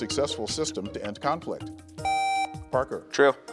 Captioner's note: buzzer beeps